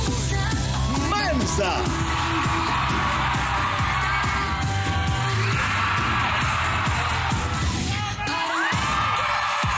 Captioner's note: upbeat music continues; audience cheering